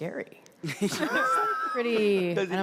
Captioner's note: panel laughs